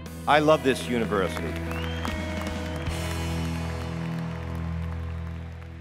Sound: applause

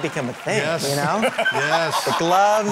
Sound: laughs

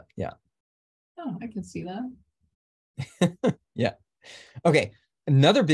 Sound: laughs

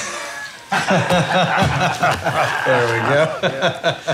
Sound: Republican leaders laughing

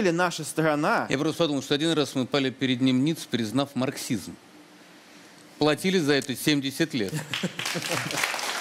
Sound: applause

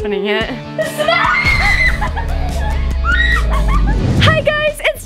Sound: screaming

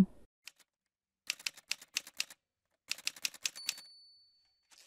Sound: typewriter sounds

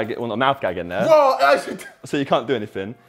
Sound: laughs

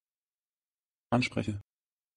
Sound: fast Pronunciation

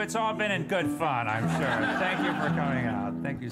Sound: laughter

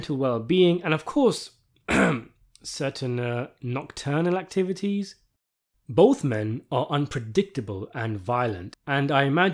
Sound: ahem

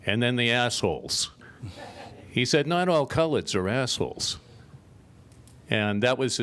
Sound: laughter

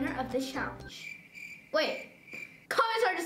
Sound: crickets chirping

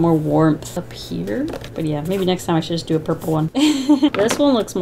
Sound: laughs

